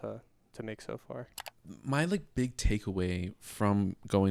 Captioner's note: computer mouse clicking